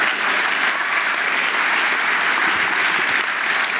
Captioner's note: audience laughing; audience applauding